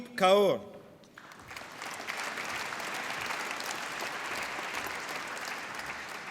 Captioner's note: applause